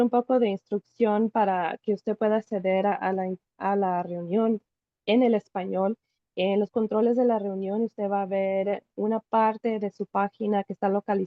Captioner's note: Spanish